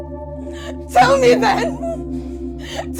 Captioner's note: crying